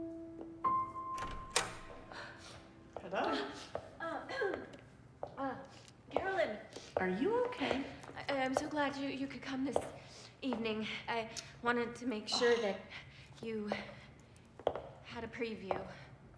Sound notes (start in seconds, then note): 0.7 door opening